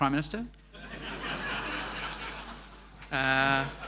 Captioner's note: laughing